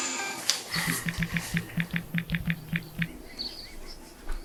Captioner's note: typing